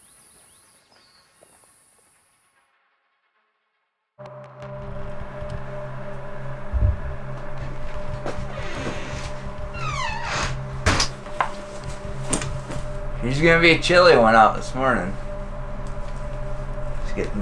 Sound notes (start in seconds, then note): 4.3 ambient music; 8.7 door creaking